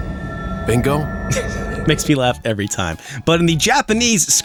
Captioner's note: chuckles